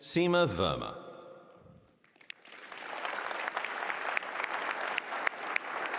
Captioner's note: applause